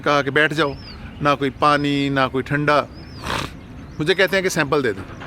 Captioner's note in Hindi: नाक से की जाने वाली आवाज़